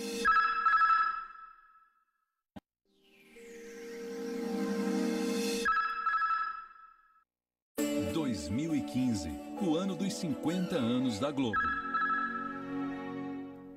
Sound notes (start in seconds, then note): 0.3 communication signals dialing; 5.7 communication signals dialing; 7.6 male announcer speaking Portuguese; 11.5 communication signals dialing